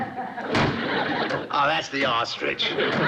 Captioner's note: loud pounding